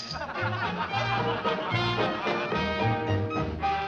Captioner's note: laughter